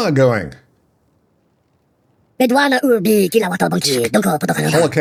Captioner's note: speaking in foreign language